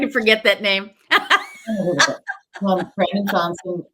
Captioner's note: laughing